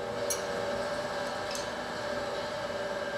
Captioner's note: machine noise